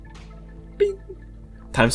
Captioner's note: bing!